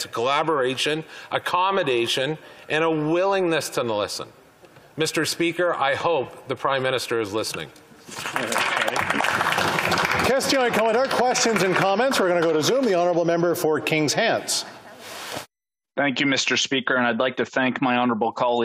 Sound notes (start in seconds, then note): 11.4 applause